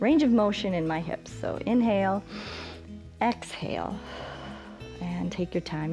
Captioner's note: exhales; inhales